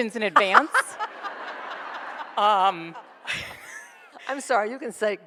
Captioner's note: laughs; audience laughs